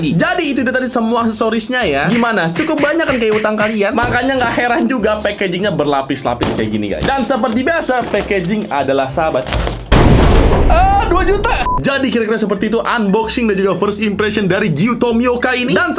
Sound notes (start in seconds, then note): 9.8 explosion; 10.8 scream